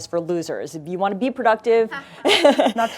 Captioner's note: laughing